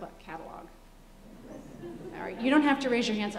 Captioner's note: laughter